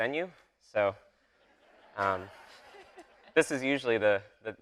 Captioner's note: audience laughing